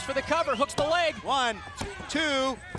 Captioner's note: crowd cheering